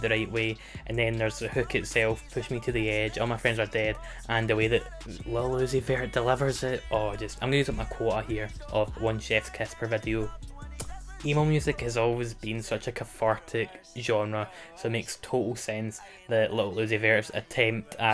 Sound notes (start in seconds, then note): 10.7 mwah